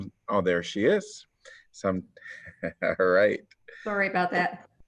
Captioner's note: laughter